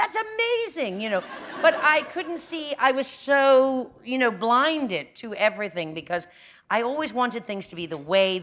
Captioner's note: laughter